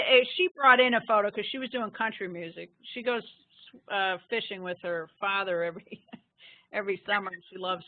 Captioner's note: laughing